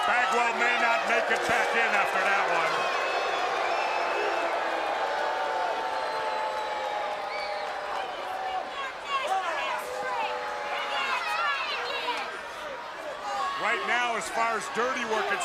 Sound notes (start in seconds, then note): 0.0 crowd cheering; 2.6 crowd chatter